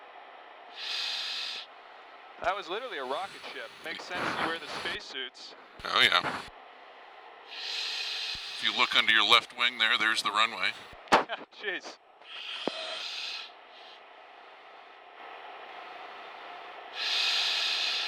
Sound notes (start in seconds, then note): 11.6 laughs; 14.0 wind whistling